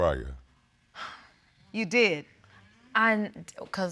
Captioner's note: exhales